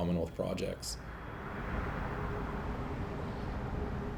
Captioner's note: cars driving